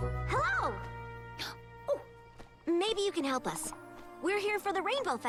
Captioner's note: gasps